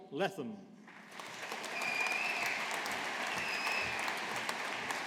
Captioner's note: audience applauding